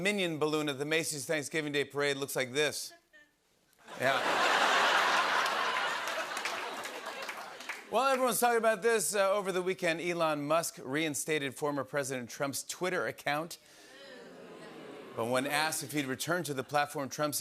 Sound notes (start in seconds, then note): 3.8 laughter; 13.2 audience "Oohs"